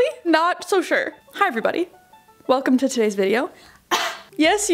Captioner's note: coughing